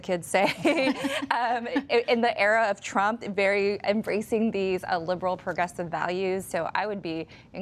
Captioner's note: laughter